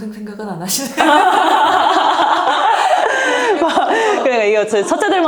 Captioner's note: laughs